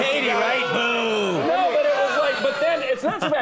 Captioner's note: audience booing